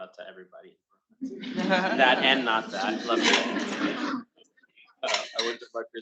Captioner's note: attendees laughing